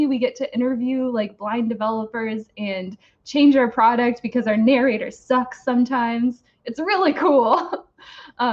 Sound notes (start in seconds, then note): 7.4 giggles